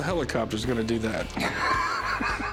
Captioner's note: laughs